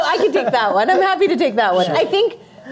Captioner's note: panelists Laughing